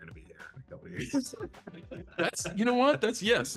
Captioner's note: both chuckles